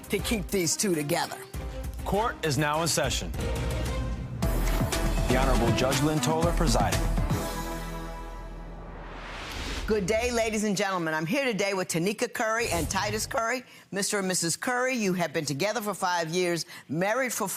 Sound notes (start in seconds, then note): 4.5 upbeat music; 8.8 swooshing